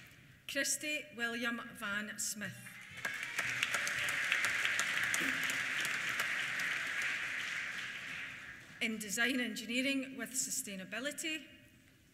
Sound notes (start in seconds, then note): 2.6 cheers; 2.7 applause